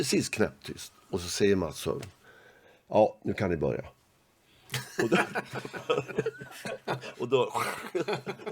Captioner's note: laugh